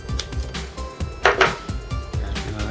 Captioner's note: thunk